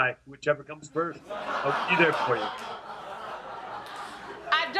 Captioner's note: audience laughing